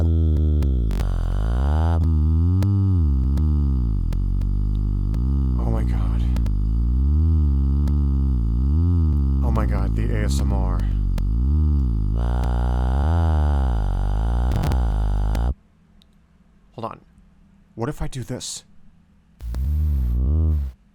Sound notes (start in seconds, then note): 2.3 Pink Trombone makes a low humming noise; 19.4 Pink Trombone makes a humming "vvv" sound